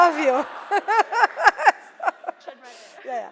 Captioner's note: laughs